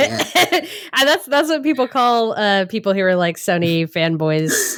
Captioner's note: laughing